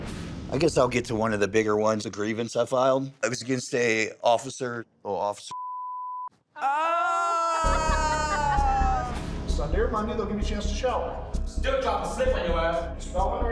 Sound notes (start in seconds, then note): 6.6 all exclaiming